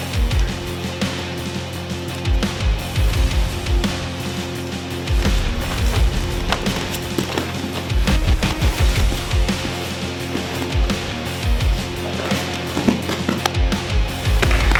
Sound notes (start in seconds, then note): 6.8 thudding